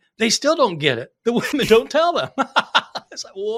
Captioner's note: laughing